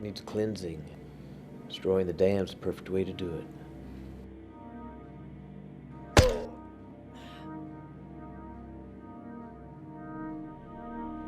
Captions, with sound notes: Needs cleansing. Destroying the dam's the perfect way to do it. (gun whacks) - Oh! (tense music)